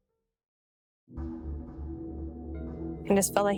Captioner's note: none